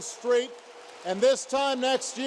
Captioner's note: applause